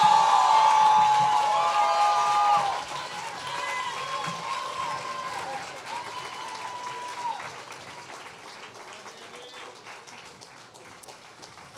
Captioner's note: applause